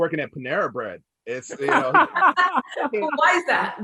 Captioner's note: chuckles